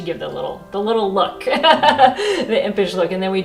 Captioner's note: laughs